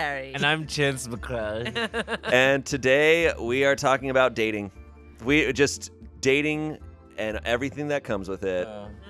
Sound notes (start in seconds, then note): 1.6 laughs